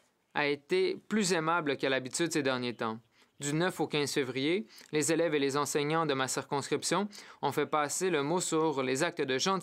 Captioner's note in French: voix de l'interprète